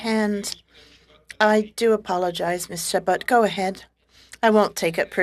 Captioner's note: speaking French